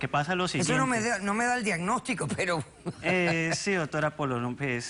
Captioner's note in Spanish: Ríe